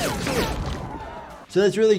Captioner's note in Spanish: El público jadea